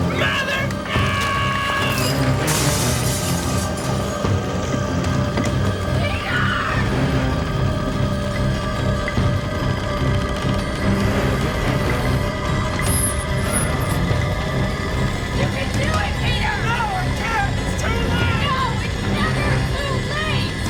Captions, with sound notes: Mother, no! (chandelier crashes) - Peter! (fire roars) You can do it, Peter! - No, I can't, it's too late! - No, it's never too late!